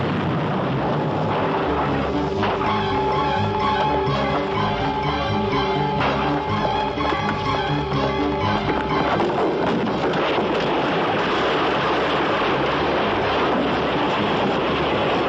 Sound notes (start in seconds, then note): 6.7 gunfire; 12.9 shouting